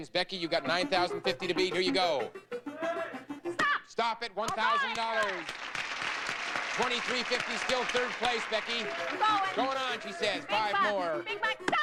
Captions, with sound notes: Becky, you got $9,050 to beat, here you go. Stop! Stop at $1,000. Alright. [audience applauding] $2,350, still at third place, Becky. Going! Going on she says. 5 more. Big bucks, big bucks... Stop!